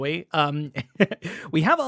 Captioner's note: laughs